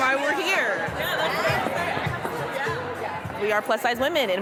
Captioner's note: chattering